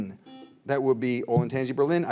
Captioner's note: buzzer beeps